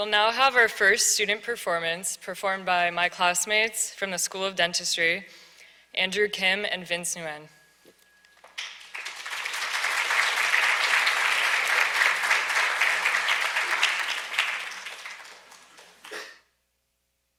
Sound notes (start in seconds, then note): 8.4 audience applauds